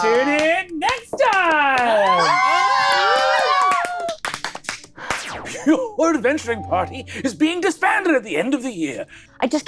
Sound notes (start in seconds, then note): 0.0 all clapping